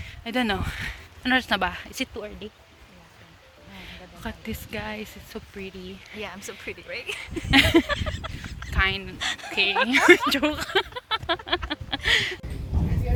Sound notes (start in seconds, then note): 6.9 laughs; 10.9 laughter